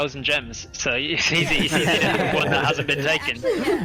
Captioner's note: all agreeing noises